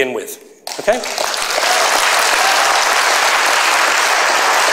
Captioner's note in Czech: potlesk